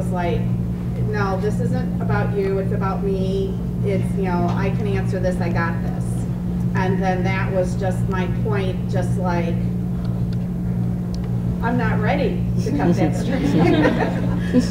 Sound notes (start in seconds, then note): 12.7 laughter